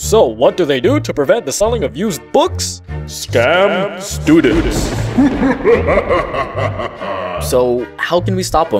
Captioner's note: evil laughter